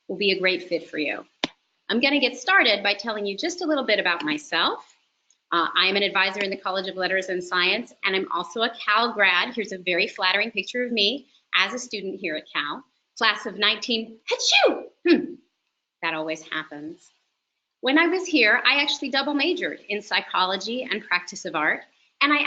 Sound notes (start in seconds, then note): 15.0 fake sneeze